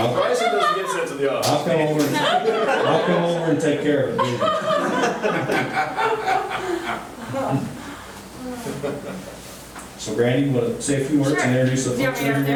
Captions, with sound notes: - Bryson doesn't get sent to the office. - I'll come over, I'll come over and take care of it. (laughing) So, Brandy, you wanna say a few words and introduce the folks to everyone?